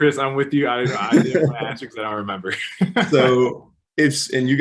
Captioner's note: laughs